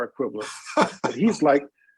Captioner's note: laughter